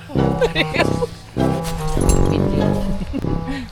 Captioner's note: laugh